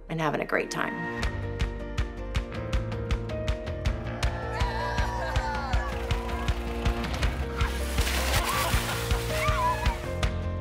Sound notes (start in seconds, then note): 1.6 upbeat music; 5.6 cheering